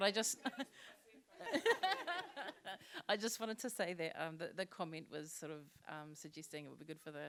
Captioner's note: laughter